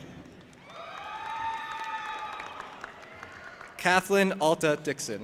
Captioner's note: audience applauding and cheering